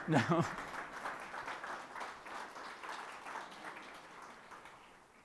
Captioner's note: people applauding